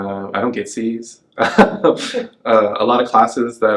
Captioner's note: laughs